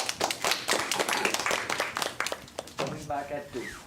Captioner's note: applause